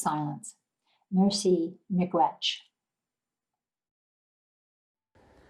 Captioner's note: speaking in foreign language